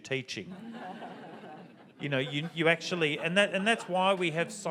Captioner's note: audience laughs